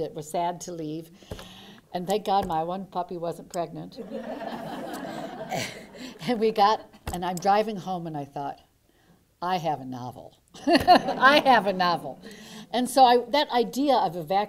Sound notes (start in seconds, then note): 4.0 laughter